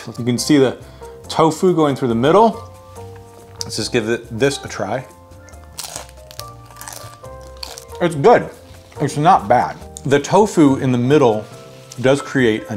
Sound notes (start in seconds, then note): 5.5 bacon crunches